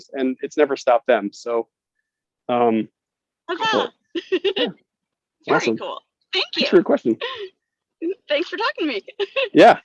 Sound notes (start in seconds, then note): 4.1 laughs